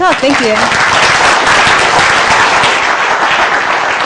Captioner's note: applause